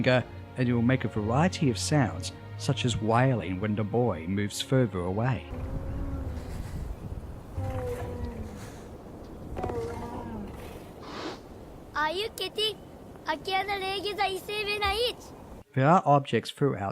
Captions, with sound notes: and it’ll make a variety of sounds, such as wailing when the boy moves further away. [Trico makes sad wailing noises] [Boy speaks in fictional language] There are objects throughout